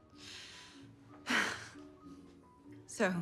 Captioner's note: Marie chuckles